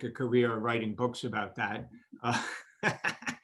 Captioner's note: laughs